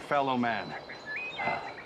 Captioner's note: sighs